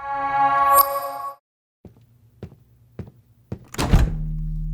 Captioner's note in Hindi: कदमों की आवाज़